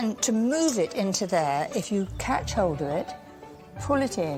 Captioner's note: none